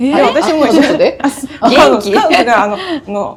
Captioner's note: laughs